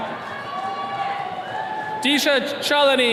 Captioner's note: attendees cheering